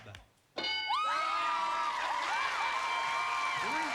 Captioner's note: cheers and applause